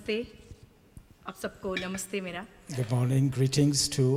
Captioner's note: speaks foreign language